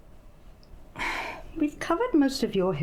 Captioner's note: sigh